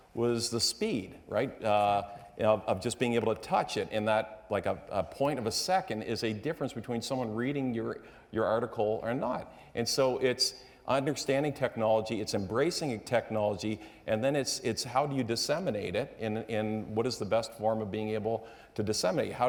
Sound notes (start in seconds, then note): none